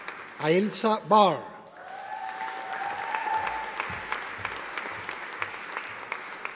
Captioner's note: audience applauding